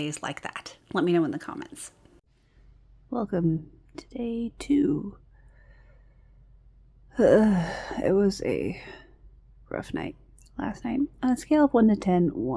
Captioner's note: sighs